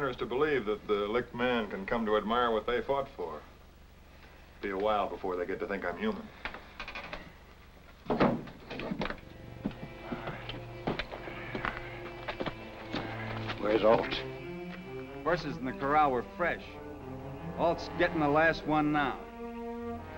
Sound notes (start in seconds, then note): 6.5 door Creeks Open; 8.7 foot Steps